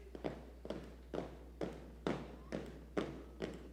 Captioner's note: footsteps marching